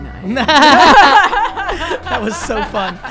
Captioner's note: laughing